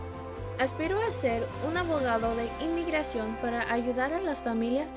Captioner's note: speaking in Spanish